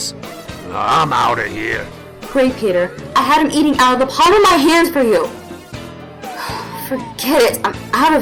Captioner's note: huff